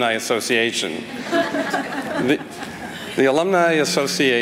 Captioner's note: laughter